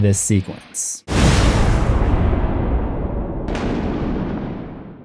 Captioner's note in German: thunder